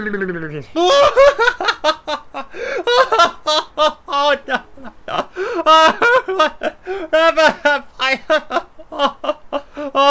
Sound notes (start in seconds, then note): 0.7 laughing uproariously